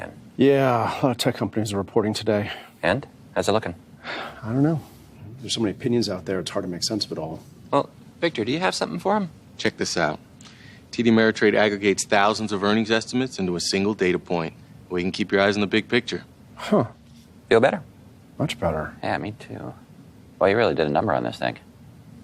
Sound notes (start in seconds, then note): 4.0 sighs